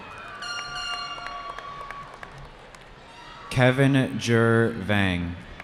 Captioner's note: cheering